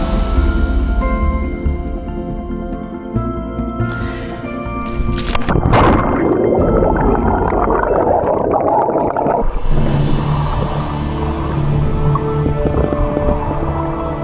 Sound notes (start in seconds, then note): 5.7 inbreath, splash and bubbles